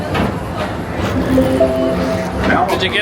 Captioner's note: public-address system chimes